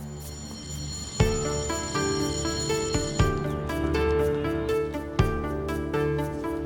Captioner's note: birds chirp; tense music; bell rings; dramatic music